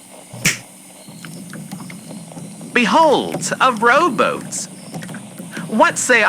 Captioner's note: snap fx; boat bobbing in water fx